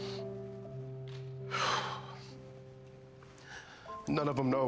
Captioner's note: exhaling